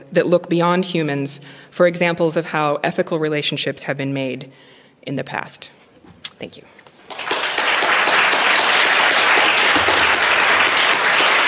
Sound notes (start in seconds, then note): 7.0 applause